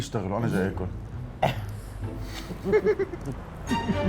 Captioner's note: laughing